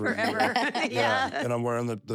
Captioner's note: laugh